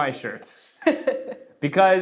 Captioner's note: laughs